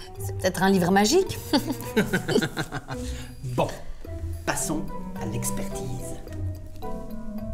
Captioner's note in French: rires